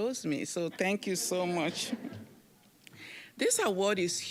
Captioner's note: audience chuckling